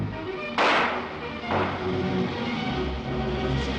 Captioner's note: gun fires